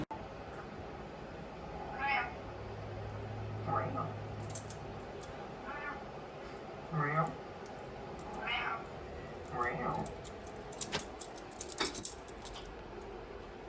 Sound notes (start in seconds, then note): 1.8 Butters the Bean meowing on TV